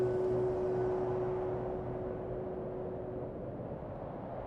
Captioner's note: wind howling